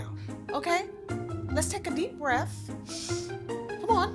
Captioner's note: inhales